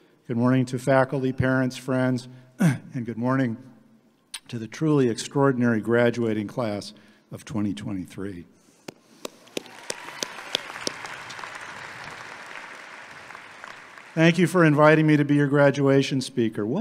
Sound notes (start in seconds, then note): 9.3 audience applauding